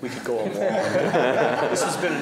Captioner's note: laughter